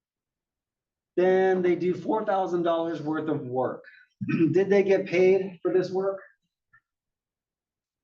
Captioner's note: cough